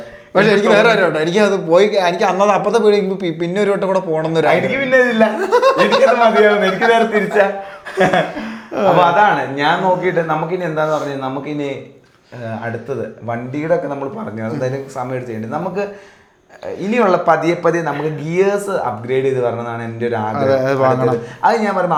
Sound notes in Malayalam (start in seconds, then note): 5.2 പൊട്ടിച്ചിരി